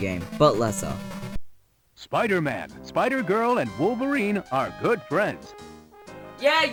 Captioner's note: game Audio